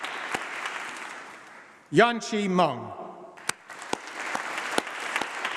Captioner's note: applause